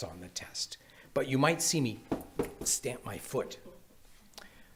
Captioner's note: shoes clacking